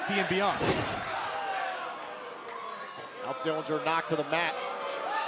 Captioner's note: crowd chatter